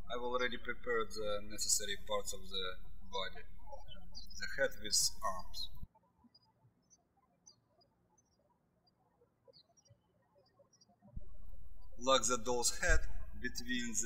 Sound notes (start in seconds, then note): 7.0 birds chirping